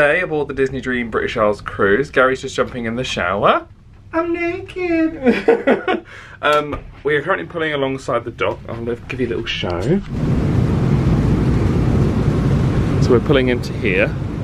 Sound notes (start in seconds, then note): 5.1 laughs